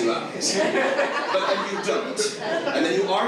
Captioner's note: audience laughs